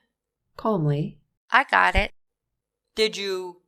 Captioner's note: calmly